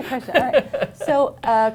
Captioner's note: laughter